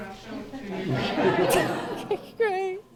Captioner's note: laughing